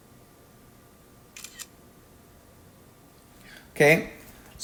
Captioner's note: camera shutters